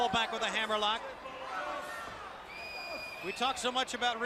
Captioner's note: crowd chatter